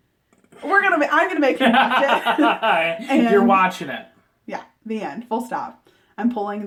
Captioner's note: sternly